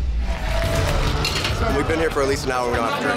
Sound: crowd applauding

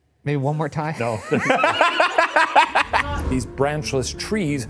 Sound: laughs

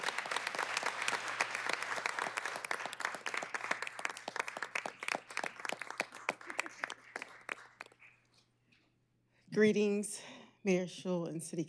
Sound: applause

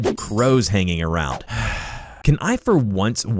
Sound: sigh

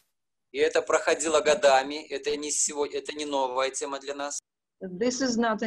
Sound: speaking foreign language

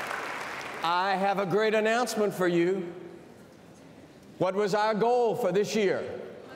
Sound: cheers and applause

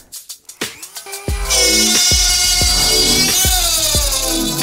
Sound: drilling sound

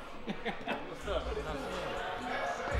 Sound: laughing

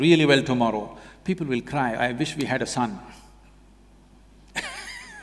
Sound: laughter

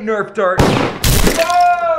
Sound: gunshot and crashing

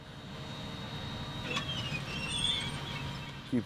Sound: tractor machinery squeaks

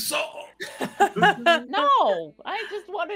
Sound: laughs

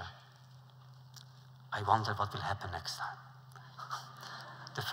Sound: laughter

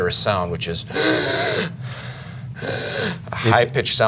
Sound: breathing

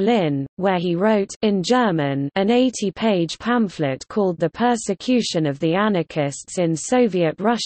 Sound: in German

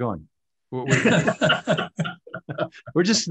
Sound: all laughing

